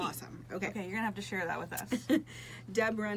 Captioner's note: laughs